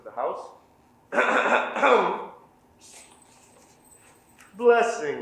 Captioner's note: messenger coughing